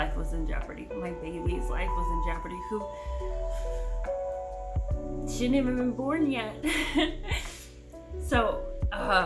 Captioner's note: deep breath